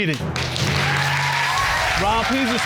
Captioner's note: audience applauds